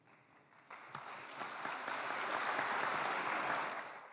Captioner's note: applause